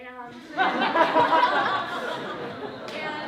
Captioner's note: laughter